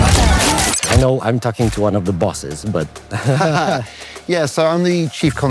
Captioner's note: laughter